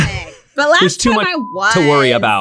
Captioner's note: beep sound